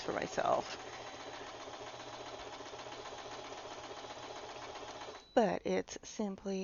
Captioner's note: sewing machine noises